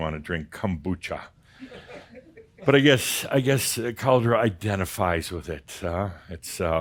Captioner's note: a few giggles